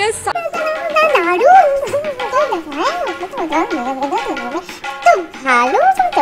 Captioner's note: indistinct chatter